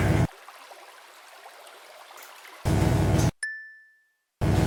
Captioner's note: water falling; bell dings